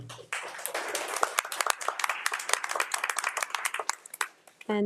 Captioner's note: audience applauds